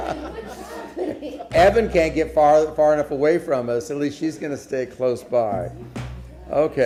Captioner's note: laughter